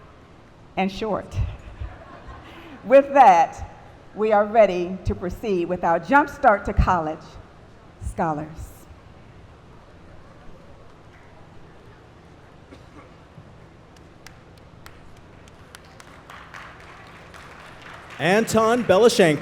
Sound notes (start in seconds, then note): 14.8 applause